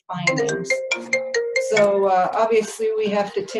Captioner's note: phone rings